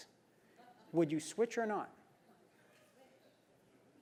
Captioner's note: laugh